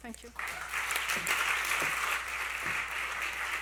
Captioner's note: applause